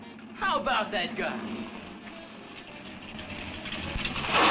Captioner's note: engine rumbling; lively music plays on radio